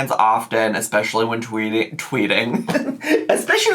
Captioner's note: chuckles